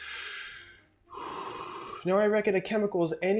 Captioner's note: breathes out